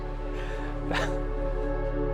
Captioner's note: nervous chuckle